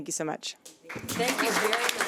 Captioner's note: audience applauds